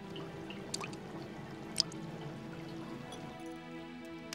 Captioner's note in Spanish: gorgoteo líquido